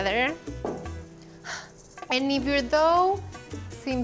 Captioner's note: exhales